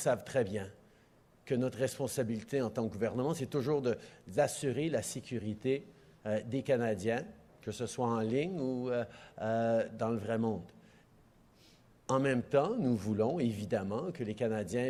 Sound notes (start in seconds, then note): 0.6 speaking French